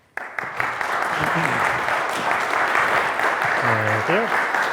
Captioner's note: audience applauds